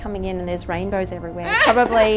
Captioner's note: laughing